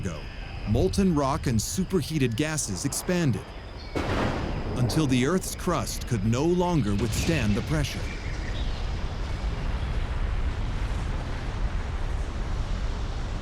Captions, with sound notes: molten rock and super-heated gases expanded, [thunder] until the earth's crust could no longer withstand the pressure... [deep rumble] [birds singing]